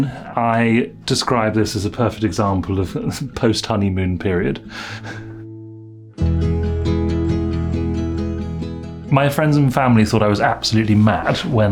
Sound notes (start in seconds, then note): 4.6 breathing heavily; 6.2 bright guitar music